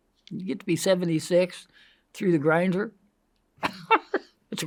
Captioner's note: laughs